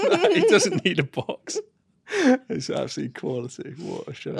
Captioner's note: laughs; chuckles